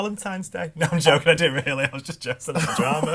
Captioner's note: laughs